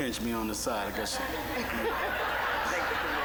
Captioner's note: audience laughing